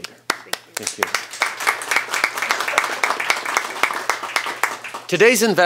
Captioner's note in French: Applaudissements